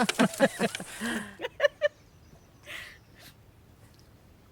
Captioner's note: sly laughter